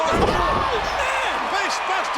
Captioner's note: bodies thud